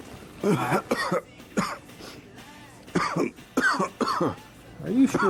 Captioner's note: Don coughing continuously